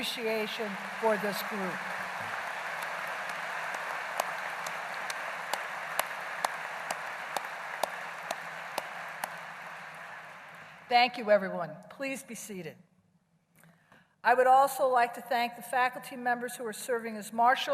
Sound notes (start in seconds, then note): 1.9 applause